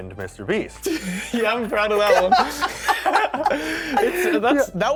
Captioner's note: chuckles; laughter